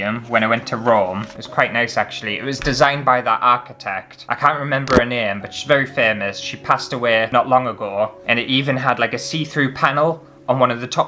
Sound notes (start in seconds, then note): none